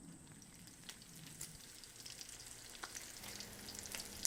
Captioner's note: bacon sizzles